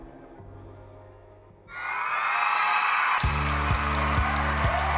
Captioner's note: applause and cheering